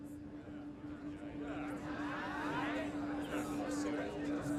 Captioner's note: overlapping chatter